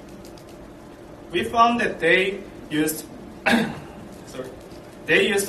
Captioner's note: coughs